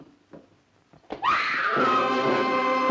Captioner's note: screams; loud suspenseful music